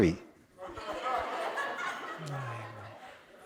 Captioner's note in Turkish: Kahkaha